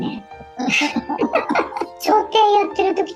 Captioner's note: laughs